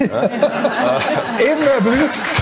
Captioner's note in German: Alle lachen